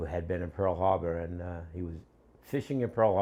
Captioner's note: none